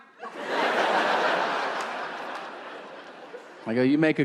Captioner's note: audience laughing